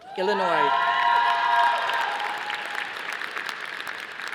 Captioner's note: audience applauding